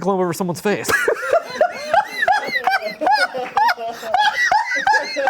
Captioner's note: laughs